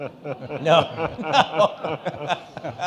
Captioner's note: all laughing